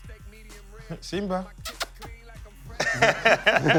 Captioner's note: makes kissing sound; laughter